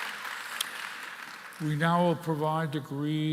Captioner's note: applause